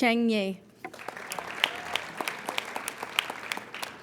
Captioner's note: applauding